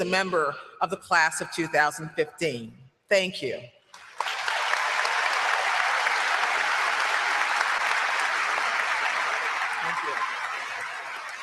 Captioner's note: applause